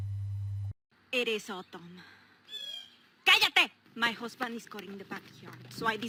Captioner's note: bird call